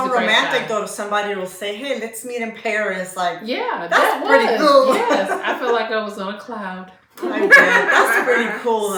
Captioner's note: laughter